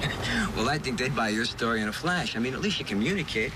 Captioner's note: laughs